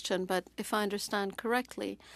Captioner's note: speaking French